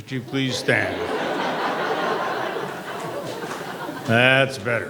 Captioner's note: laughter